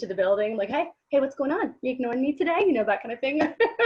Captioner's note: giggles